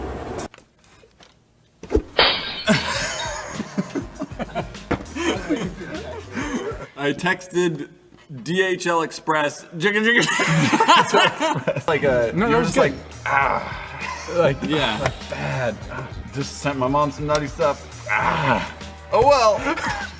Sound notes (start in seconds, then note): 9.8 laughs